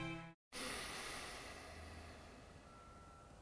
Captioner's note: heavy sigh